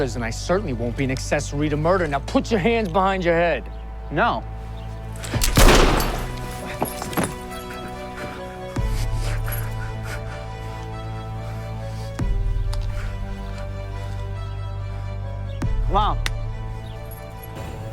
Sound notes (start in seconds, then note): 5.5 gunshot; 6.6 dramatic orchestral music